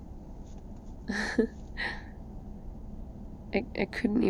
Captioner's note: laughs